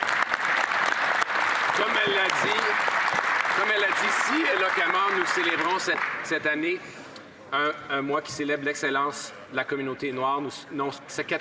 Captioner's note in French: applaudissements